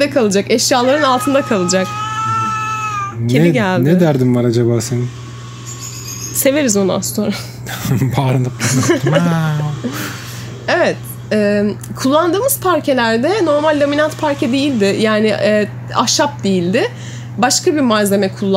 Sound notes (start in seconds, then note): 0.6 meoww